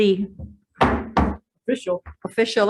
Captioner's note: gavel bangs twice